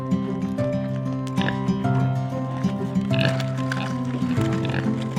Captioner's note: pig snorts